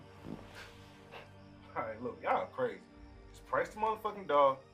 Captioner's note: scoffs